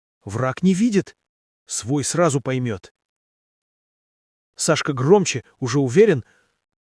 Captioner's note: louder, already confident